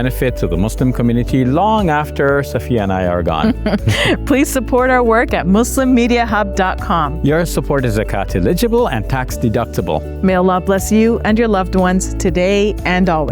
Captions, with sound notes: to the Muslim community long after Safiyyah and I are gone. (both chuckling) - Please support our work @MuslimMediaHub.com. - Your support is accountiligible and tax deductible. - Male Allah bless you and your loved ones today and always